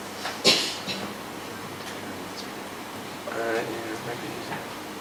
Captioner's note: mumbles